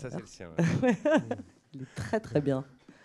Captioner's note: laughs